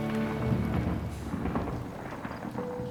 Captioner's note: thunder rumbling; gentle instrumental music